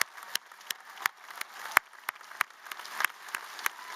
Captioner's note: applause